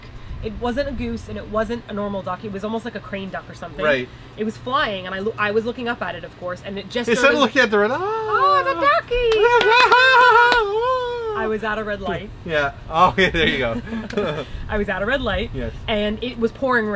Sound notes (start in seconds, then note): 9.2 clapping